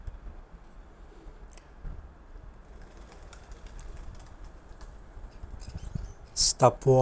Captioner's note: sound: doves are flying